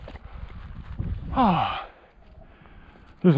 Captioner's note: sigh